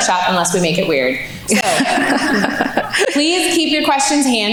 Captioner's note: laughing